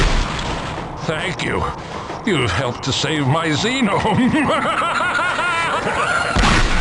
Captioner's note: evil laugh